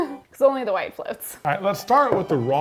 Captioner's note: chuckles